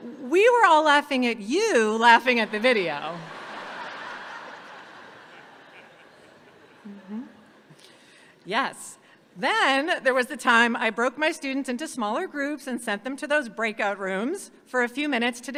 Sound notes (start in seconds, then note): 2.4 audience laughs